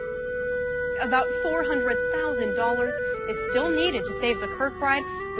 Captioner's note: voiceover